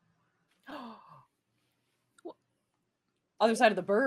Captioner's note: gasping